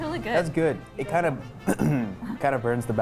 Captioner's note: clears throat